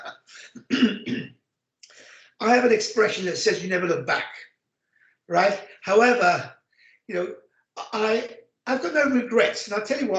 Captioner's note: laughs